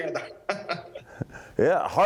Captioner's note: laughs